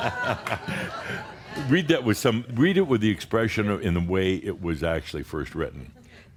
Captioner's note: Adamus chuckles